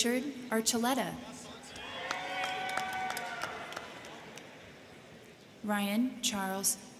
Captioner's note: crowd clapping; crowd cheering